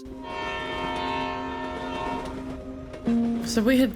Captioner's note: train honks